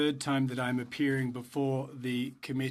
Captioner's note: speaking French